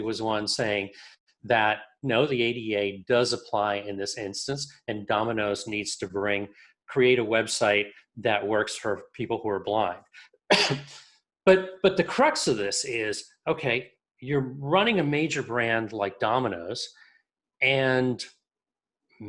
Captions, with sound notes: was one saying that, no, the ADA does apply in this instance, and Domino's needs to bring, create a website that works for people who are blind. (coughs) But the crux of this is, okay, you're running a major brand like Domino's, and